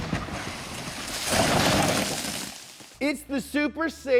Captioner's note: car revving; crash